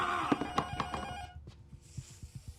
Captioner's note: intercom rings